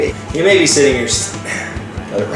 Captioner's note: chuckles; sighs